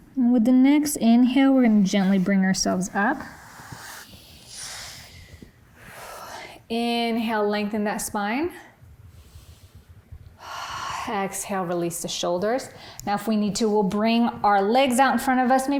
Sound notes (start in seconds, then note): 3.2 breathing deeply; 10.4 exhaling